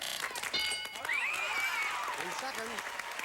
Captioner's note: audience applauding